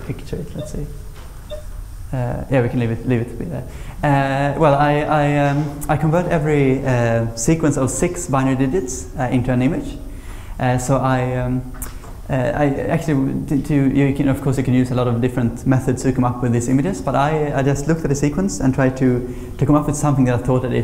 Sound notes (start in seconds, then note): none